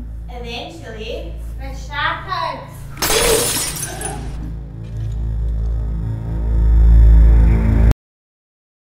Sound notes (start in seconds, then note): 3.0 breaking glass